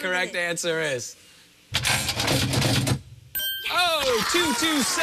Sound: cranking

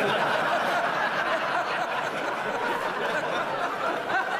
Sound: laughter

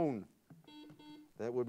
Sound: buzzer sounds

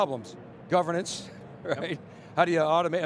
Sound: chuckles

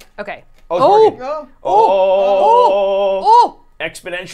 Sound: all exclaiming

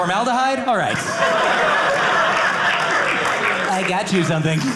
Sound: audience laughing

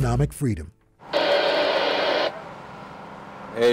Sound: radio static

